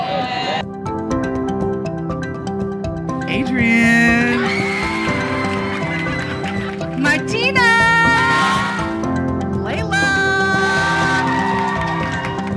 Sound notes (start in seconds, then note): 4.2 cheering and laughing; 10.5 cheering and clapping